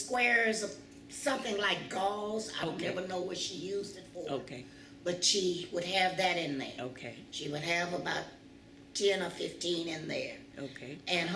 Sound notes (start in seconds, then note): none